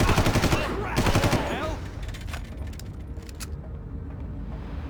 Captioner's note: gun firing